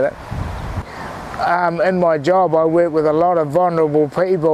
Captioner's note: inhales